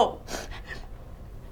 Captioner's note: crying